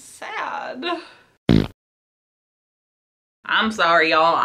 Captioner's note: fart Noise